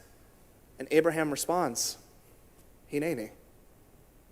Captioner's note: in Hebrew